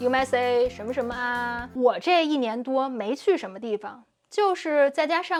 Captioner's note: speaking Chinese